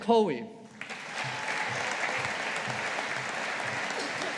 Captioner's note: audience applauding